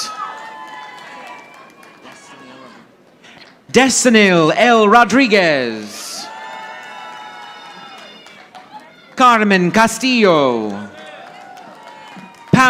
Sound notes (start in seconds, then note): 0.0 audience applauding; 6.2 audience applauding